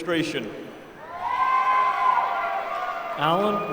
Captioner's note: applause